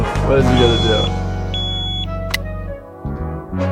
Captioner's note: alarm beeps